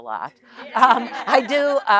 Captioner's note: audience laughing